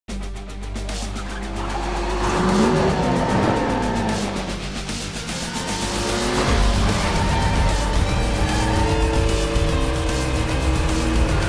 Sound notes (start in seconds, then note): 0.3 energetic rock music; 3.3 tires screeching; 6.2 engines revving